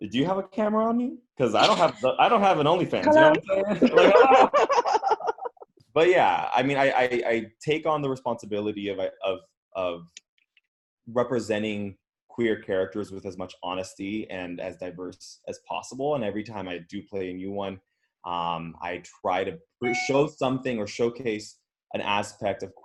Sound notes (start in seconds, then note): 3.6 all chuckling